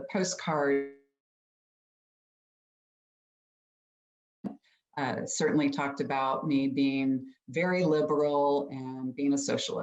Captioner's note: audio cuts out